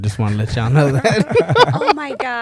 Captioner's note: laughter